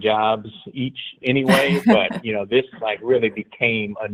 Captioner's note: laughing